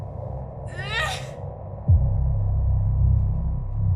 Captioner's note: guttural screech